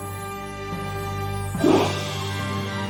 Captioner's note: whoosh